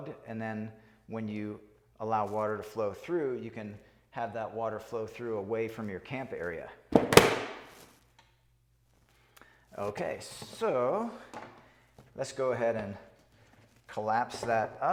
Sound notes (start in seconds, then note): 6.9 plastic thuds